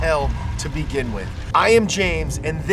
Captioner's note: Satan laughs